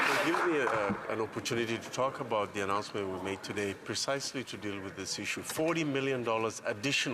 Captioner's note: some Applause